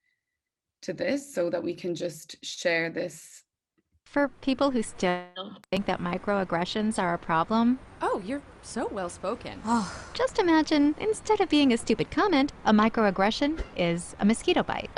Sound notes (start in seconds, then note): 9.6 sighing